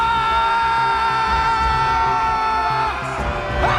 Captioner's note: all yelling